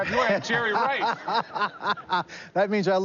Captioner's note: laughs